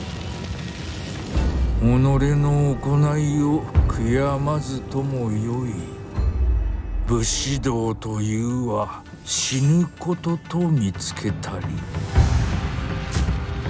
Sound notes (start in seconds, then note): 2.1 speaking foreign language